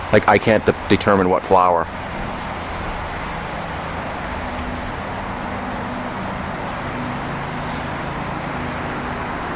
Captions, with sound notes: like I can't, determine what flower. (Traffic in Background)